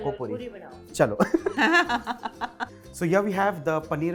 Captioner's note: chuckles